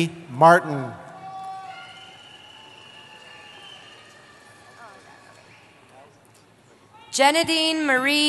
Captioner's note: cheering